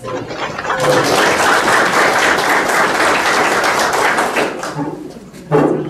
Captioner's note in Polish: oklaski